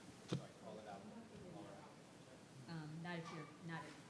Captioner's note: faintly speaking